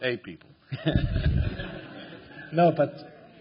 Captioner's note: laughter